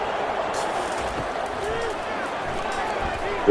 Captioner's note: crowd Noises